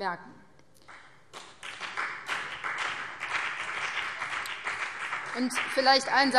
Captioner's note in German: Beifall BÜNDNIS 90/DIE GRÜNEN und vereinzelt CDU